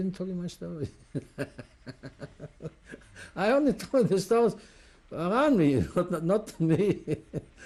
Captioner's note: laughs